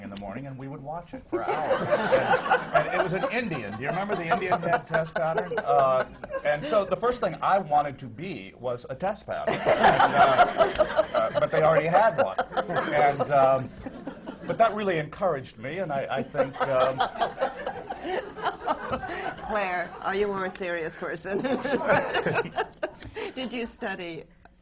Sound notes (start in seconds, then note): 1.4 laughter; 12.3 laughter; 16.2 laughs